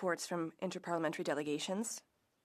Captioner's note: speaking French